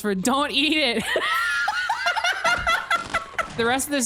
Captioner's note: both laugh